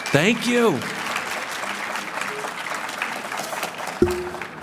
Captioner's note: applause, cheering